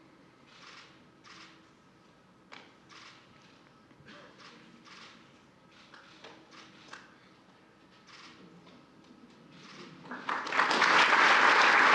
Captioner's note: applause